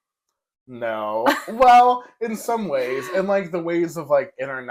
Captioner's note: laugh